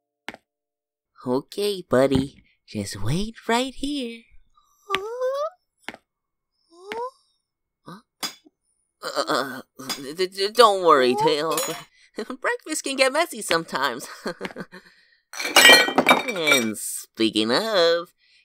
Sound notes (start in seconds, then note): 14.2 chuckles nervously